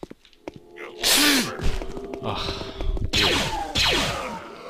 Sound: sharply inhales breath in a hiss/gasp

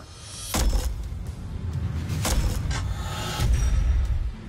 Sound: booming impacts

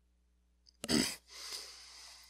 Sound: clears throat

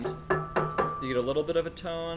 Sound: knocks on metal

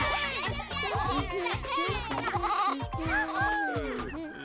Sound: cheering; bleating; Peter moaning softly

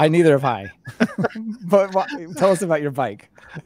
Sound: laughing

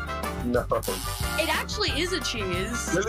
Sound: buzzer sounds

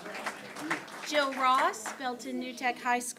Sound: applause

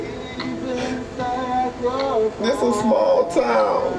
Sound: sobs

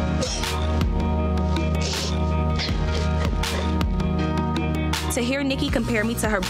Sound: soft music; sobs

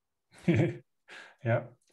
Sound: laughs

